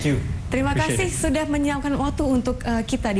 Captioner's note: non-english speech